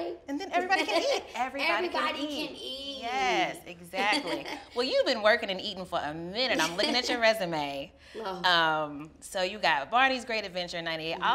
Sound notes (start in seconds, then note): 1.8 laughs; 4.2 laughs; 6.8 laughs